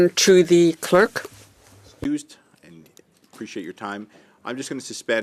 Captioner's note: speaking French